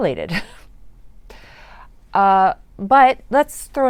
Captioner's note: chuckles in disbelief